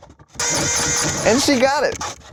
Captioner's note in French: la pompe grince